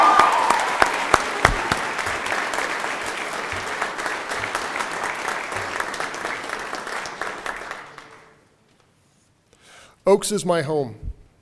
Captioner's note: cheering and Applause